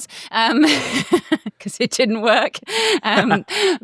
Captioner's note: laughs